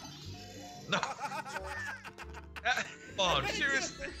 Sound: laugh

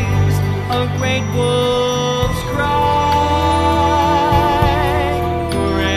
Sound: wolf howling

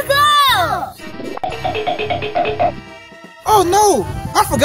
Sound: xylophone sound effect

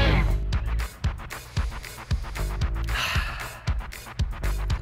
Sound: relaxed sigh

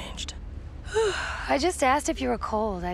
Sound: yawning

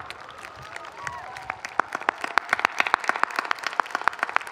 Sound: audience cheering

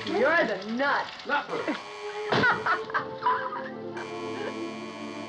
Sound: buzzing Continues; laughing

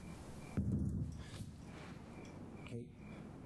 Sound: knocking on door

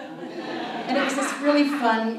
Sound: audience laughs

